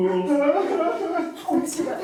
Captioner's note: sobbing in the background